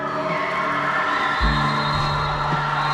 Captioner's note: final whistle